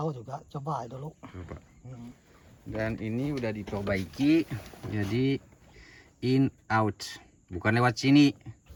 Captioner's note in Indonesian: berdehem